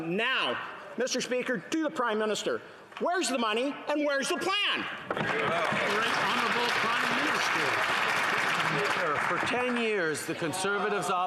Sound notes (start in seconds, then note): 8.7 some Applause